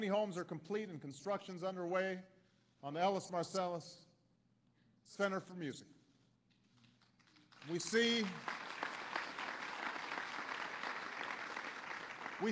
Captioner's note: applause